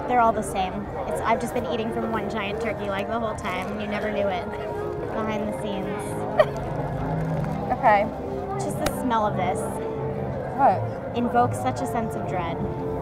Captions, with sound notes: - They're all the same. I've just been eating from one giant turkey leg the whole time and you never knew it. Behind the scenes. (chuckles) - Okay. - Just the smell of this. - What? - Invokes such a sense of dread,